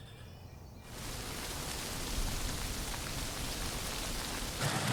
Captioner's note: busy rustle of aspen leaves